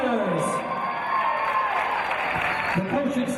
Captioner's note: cheers and applause